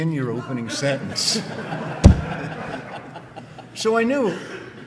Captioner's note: audience laughing